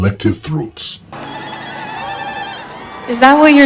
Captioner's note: zaghareet trills